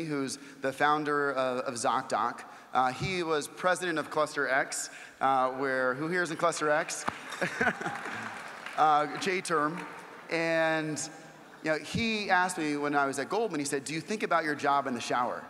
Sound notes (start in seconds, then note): 7.1 laugh